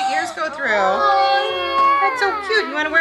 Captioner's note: kids shouting